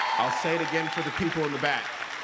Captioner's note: applause